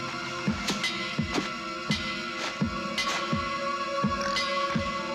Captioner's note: footsteps plodding